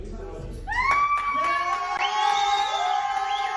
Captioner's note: applause